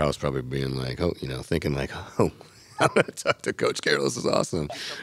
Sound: laughs

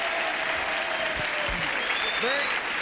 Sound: applause and cheering

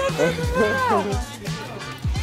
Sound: laugh

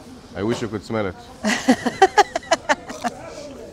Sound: laughs

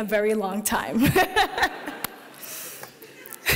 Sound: laughing

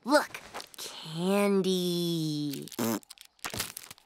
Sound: blows raspberry

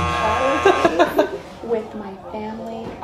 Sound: buzzer buzzing; laughing

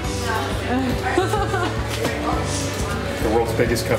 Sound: laughing

